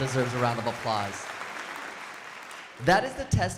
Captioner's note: crowd applauding